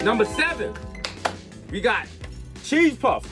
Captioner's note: harp shimmers; Mero slaps hands